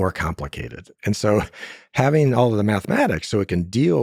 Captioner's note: laughs